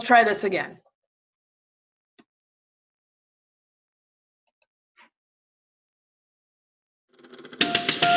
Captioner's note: silence